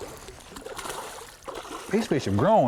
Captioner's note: splashing